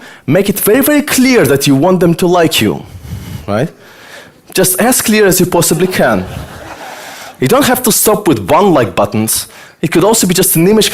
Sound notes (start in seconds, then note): 5.4 audience laughter